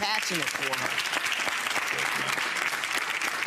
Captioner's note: audience applauds